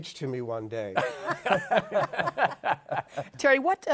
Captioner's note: laughter